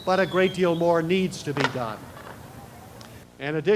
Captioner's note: firecracker